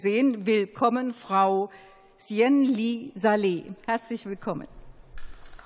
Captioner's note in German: Beifall